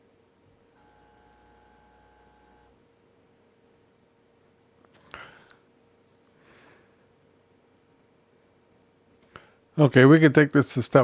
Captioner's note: silence